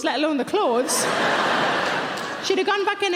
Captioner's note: audience laughing